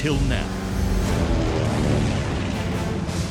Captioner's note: plane engine roaring; uplifting music